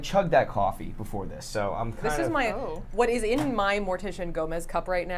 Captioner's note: none